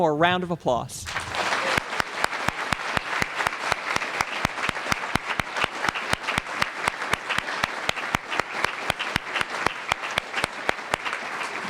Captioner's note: applause